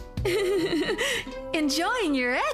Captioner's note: giggling